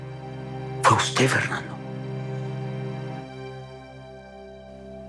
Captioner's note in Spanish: Sollozos